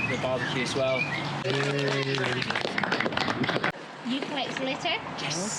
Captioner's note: group cheers